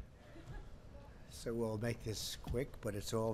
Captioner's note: laughter